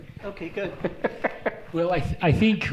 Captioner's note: laughing